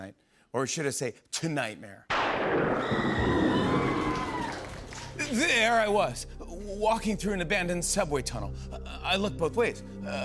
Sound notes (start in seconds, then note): 2.4 thunder crashes, woman screams